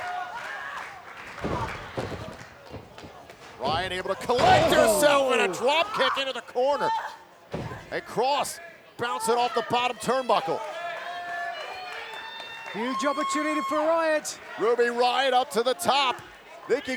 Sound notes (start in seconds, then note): 0.0 crowd claps; 1.3 canvas thuds